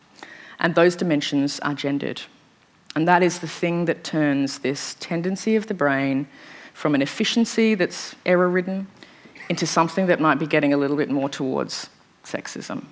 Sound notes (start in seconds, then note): none